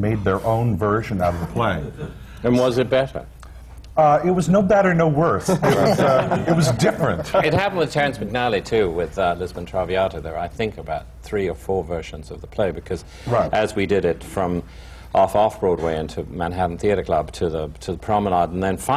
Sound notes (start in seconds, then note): 5.4 laughter